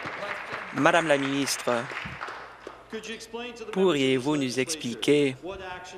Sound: applause

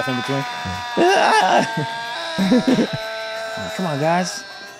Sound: Mac continues screaming

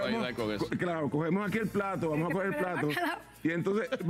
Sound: risas

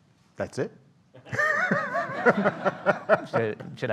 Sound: audience laughing

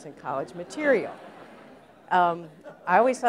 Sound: laughter

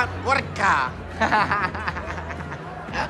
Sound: laughs

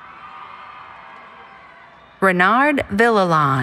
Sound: cheering

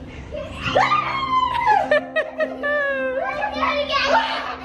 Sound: people laughing

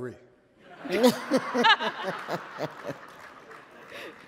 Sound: laughter

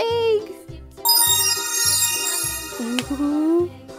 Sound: magical sounds

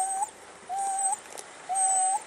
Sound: dog continues whimpering

